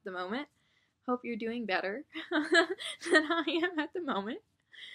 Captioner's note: laughs